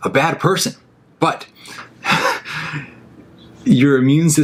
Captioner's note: laughing